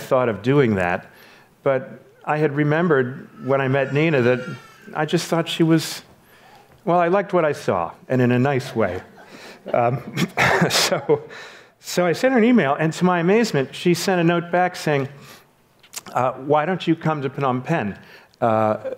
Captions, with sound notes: I don't know why I thought of doing that, but I had remembered when I met Nina that I just thought she was, well, I liked what I saw and in a nice way. (laughs) So I sent her an email and to my amazement, she sent a note back saying, why don't you come to Phnom Pen?